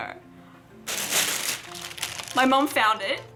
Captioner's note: bag scrunkles